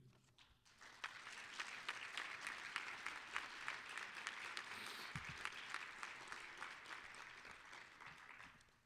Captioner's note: applause